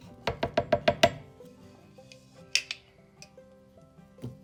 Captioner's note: spoon tapping